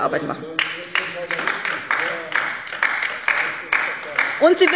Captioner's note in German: Beifall bei der LINKEN - Zurufe von der CDU